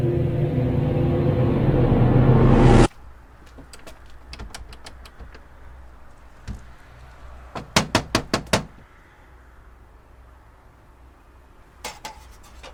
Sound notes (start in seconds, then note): 0.0 eerie dramatic music continues; 3.4 doorknob rattles; 7.7 Nick knocking